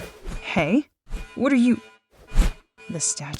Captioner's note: swooshing Sounds; swooshing Sounds